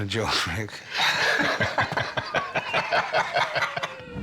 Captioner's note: laughter